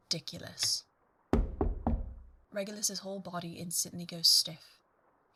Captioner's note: knocking